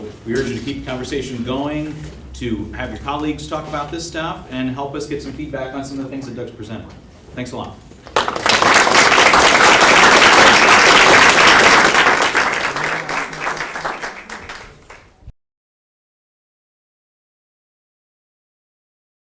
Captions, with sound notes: So we urge you to keep the conversation going to have your colleagues talk about this stuff and help us get some feedback on some of the things that Doug's presented. Thanks a lot. [APPLAUSE]